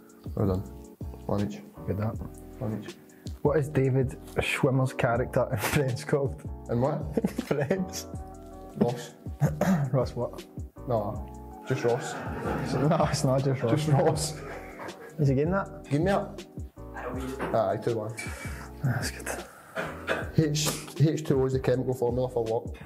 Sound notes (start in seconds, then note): 7.1 laughs; 11.7 laughter